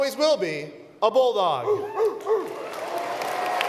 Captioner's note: barking